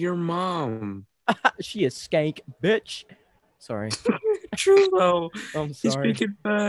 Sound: inhales

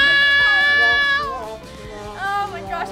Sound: buzzer; yelling

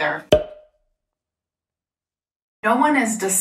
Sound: cork popping

